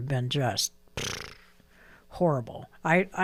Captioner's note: blows raspberry